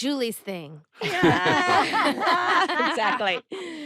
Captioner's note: all laugh